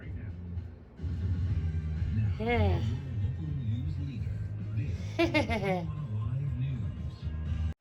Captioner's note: Caprice giggles